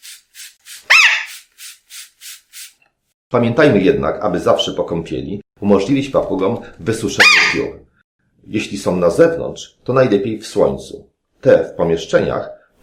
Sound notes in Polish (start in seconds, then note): 0.8 krzyk papugi